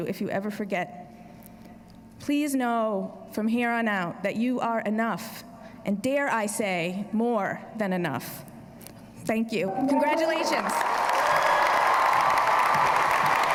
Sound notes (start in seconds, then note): 10.2 applause